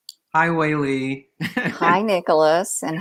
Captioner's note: laughs